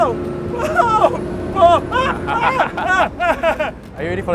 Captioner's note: screaming in 196cm